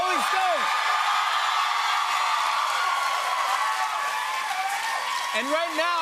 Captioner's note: cheers and applause